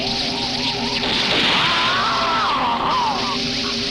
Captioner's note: gunshots booming; groaning